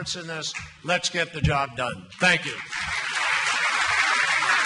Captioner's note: applause